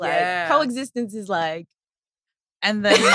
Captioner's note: laughs